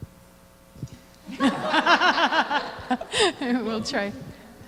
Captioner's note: laughter